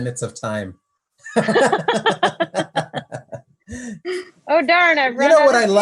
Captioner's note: laugh